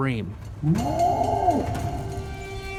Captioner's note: roaring